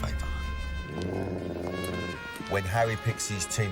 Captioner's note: dog growls